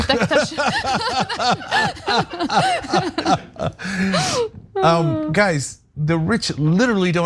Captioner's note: laugh